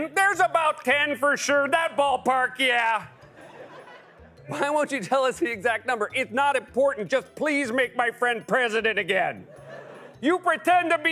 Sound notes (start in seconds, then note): 2.8 normal voice; 9.4 laughter